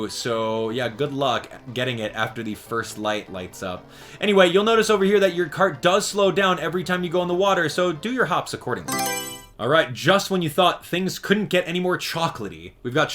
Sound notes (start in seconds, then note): 8.8 Mario Selection Sound